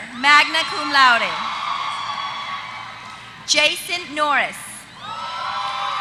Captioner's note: applause